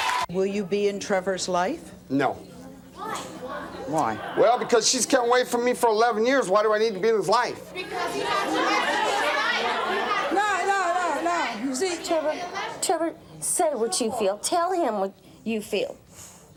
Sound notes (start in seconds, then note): 7.5 audience murmurs